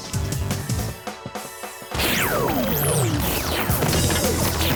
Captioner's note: powering down